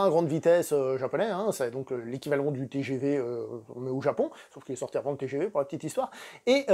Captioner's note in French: français